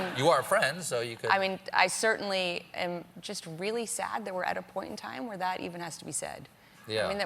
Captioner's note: laughter